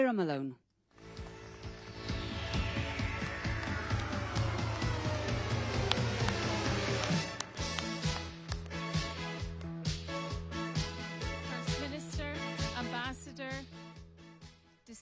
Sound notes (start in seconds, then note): 0.0 applause; 3.2 applause